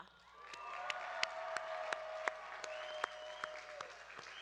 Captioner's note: audience cheering